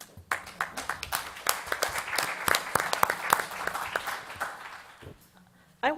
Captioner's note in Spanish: Aplausos